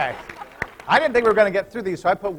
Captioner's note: applause